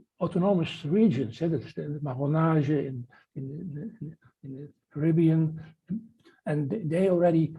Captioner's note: non-english